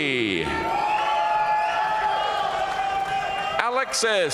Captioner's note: audience cheering and applauding